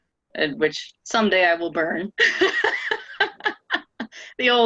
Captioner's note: laughing